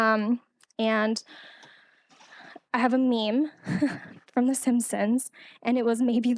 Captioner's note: laughing